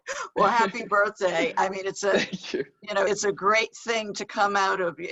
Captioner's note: laughs